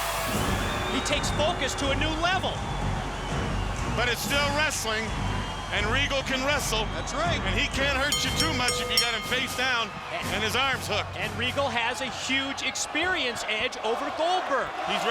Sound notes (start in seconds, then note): 8.1 bell rings